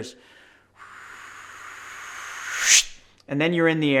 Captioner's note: air whooshing